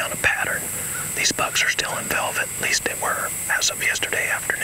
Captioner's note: whispering